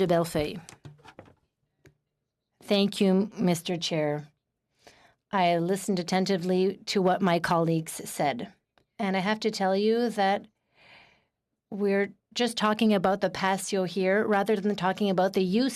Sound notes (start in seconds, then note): 6.6 speaking in French